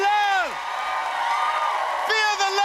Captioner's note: cheers and applause